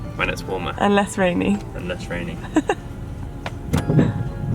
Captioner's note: laughs